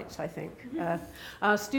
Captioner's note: laughing